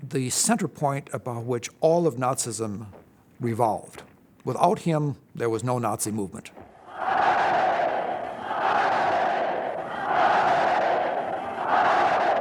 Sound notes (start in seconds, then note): 6.7 crowd chanting "Heil"